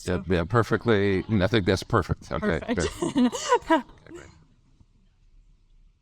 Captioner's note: laughs